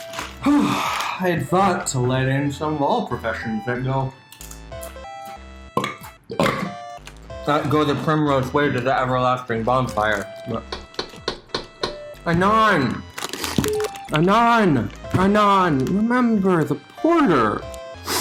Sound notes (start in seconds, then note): 6.3 burping; 10.7 knocking